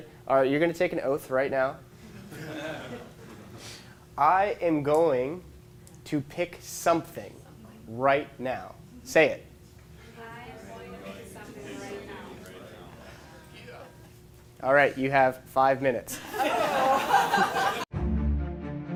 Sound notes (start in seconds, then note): 2.0 students laughing